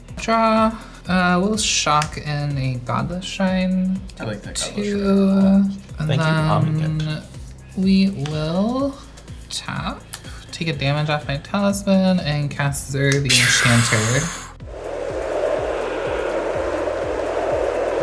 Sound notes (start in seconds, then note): 13.2 exhales sharply; 15.2 wind blowing